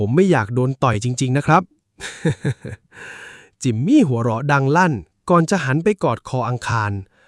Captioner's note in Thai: เสียงหัวเราะ